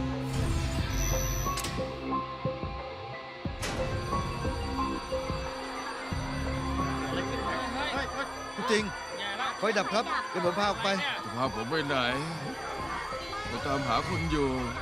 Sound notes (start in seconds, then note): 4.3 fire alarm